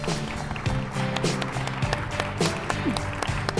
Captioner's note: applause